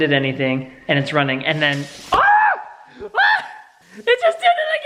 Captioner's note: screams